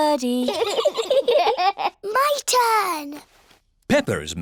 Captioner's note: both giggle